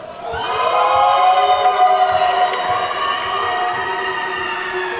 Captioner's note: attendees whooping and clapping